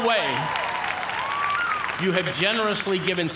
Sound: cheers and applause

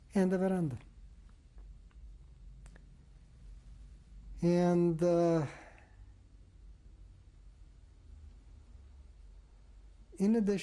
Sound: pauses for 6 seconds

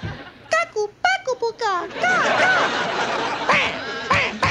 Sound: baby babble

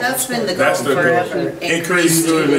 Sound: overlapping chattering

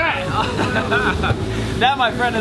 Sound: laughing

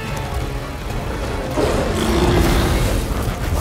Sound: roaring

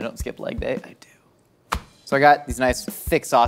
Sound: whispers

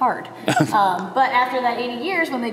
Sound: laughs

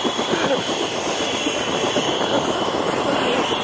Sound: laughing

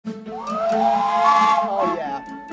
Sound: steam whistle

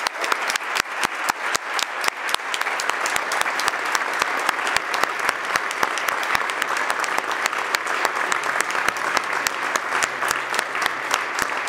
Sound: applause

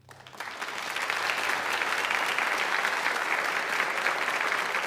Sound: audience applauds

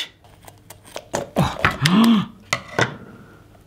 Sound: gasping

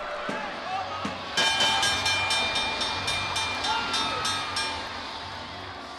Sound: crowd cheers; bell dings

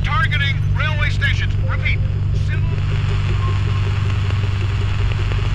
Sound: static

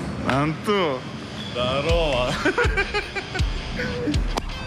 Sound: both laugh

